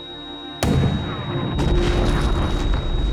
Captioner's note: gun shot